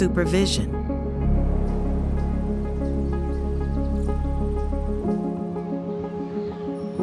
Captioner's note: birds chirping; soft intriguing music; bell ringing; children chattering